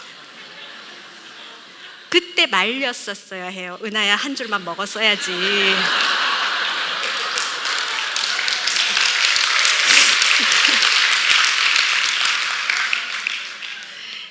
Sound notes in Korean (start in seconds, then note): 0.0 웃음; 5.9 웃음과 박수